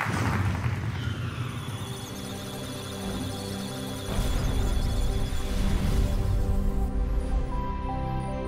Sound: electronic sounds of data; musical tones

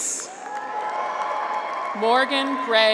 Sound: graduates cheer

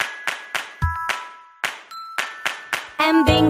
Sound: clap

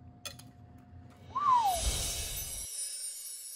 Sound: whistle; chimes

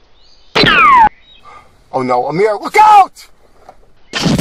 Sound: gasps

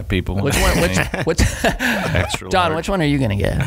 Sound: laughing

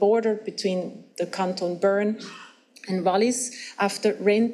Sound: speaks foreign language

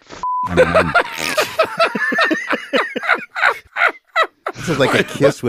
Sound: laughs

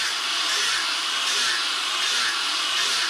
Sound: whirring

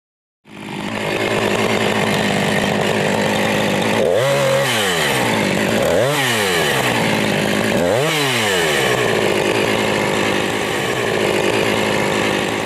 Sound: sound of chainsaw

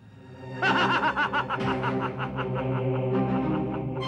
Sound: laughs

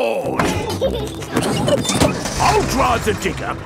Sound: peppa and george laughing

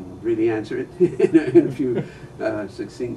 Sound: laughter

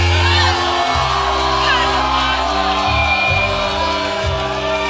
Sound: cheering

